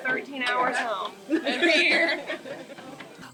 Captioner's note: laughter